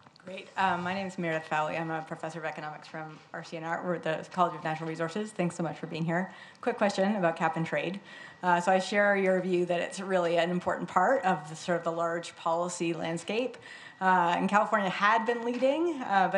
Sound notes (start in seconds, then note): none